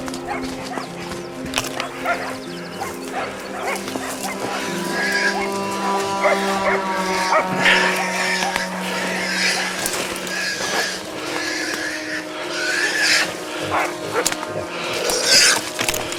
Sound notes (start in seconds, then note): 0.1 shuffling; 0.1 tense music; 4.9 boar squealing; 9.7 boar squealing